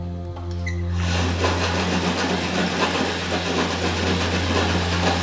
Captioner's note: ominous music; sewing machine whirs